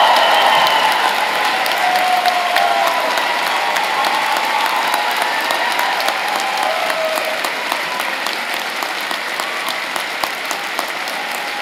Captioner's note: cheers and applause